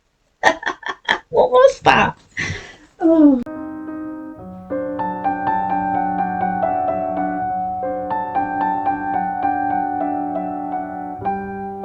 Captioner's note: laughs; laughs